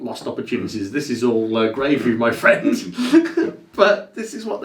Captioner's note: laughs